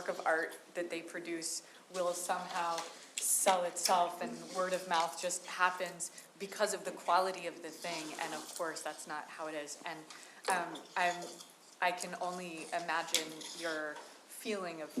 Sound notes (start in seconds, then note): none